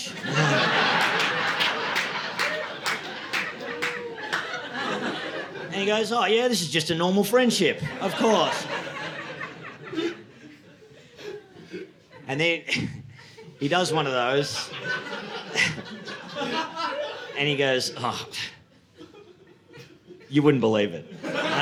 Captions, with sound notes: (audience laughing) And he goes, "Oh yeah, this is just a normal friendship, "of course." (audience laughing) And then he does one of those. (audience laughing) And he goes, "Oh, you wouldn't believe it.